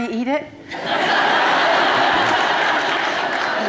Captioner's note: laughter